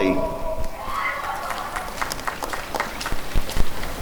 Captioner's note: applause and cheering